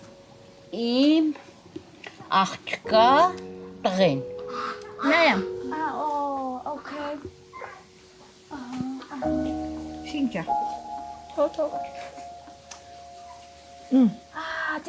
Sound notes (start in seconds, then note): 0.5 speaking Armenian; 8.9 sad music